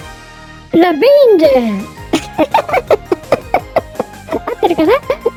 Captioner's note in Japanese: 笑い